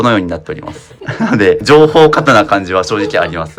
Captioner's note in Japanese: 笑い